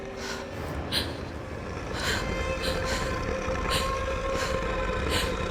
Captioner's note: Charlotte breathing heavily